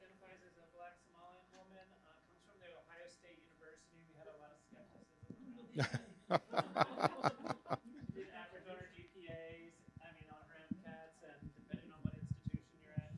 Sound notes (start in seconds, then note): 6.2 presenter laughs